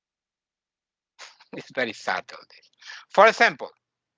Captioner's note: laughing